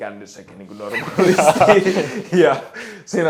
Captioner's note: all laugh